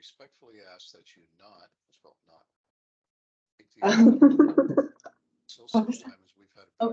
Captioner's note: speaking faintly